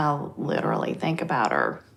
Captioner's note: none